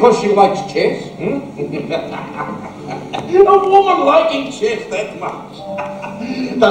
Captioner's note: laughs